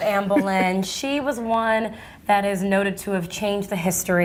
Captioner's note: laughs